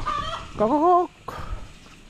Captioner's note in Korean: 닭 성대모사